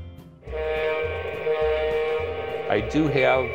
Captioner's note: train horn